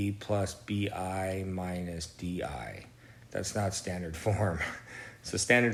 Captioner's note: chuckles